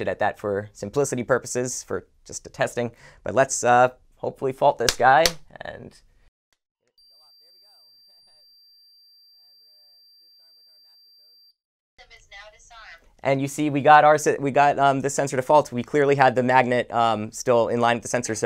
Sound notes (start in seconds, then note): 7.0 alarm beeping